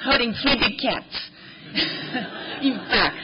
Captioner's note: laughter